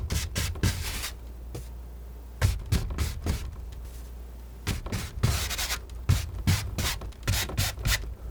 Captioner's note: scratching